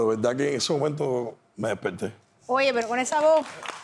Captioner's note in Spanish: Aplausos